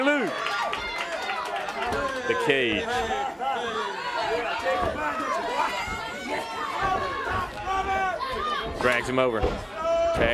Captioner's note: crowd chatter